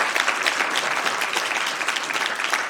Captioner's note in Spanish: Aplausos